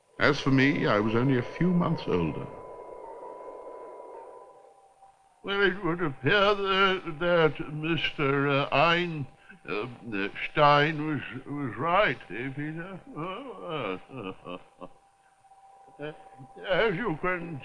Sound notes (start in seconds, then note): 4.9 voice trembling; 12.8 soft chuckle